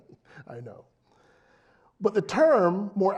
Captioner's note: laugh